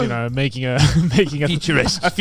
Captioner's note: chuckling